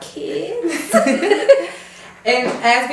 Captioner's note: hosts laugh